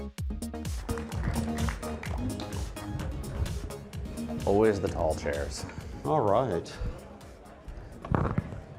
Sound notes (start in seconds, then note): 0.6 audience applauding